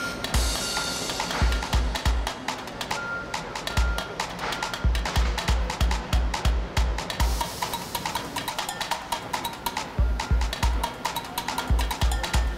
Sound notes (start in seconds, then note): 0.2 upbeat music; 2.5 beeping; 6.1 upbeat music